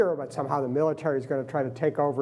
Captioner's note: none